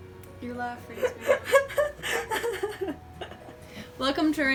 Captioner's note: komaeda laughter